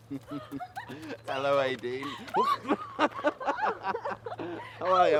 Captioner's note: both laugh